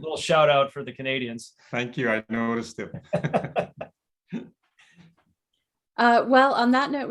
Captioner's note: laughter